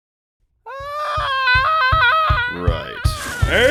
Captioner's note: manly scream